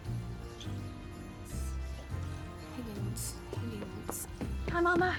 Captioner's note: whispering to self